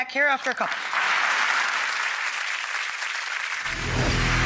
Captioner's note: audience applauds